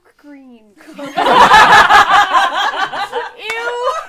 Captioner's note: laughter